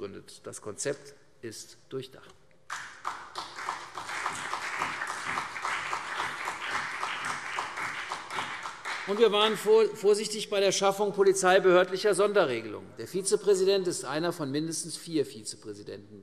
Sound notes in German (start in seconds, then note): 2.7 Beifall CDU und BÜNDNIS 90/DIE GRÜNEN